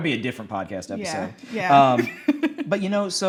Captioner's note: laughing